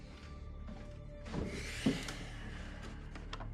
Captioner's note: inhaling